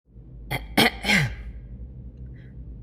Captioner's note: clear throat